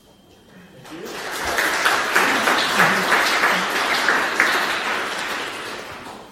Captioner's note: audience clapping